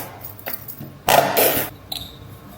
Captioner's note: splat